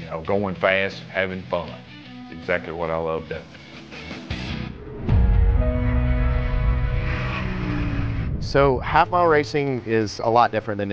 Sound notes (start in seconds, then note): 4.7 car engine roaring; 5.1 soft music